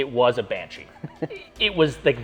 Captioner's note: giggles